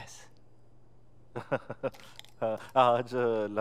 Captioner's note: Laughing